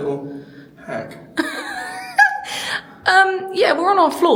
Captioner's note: laughing